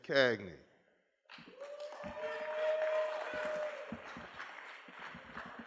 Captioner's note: applause